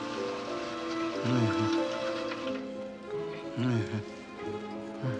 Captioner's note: Lilly mumbling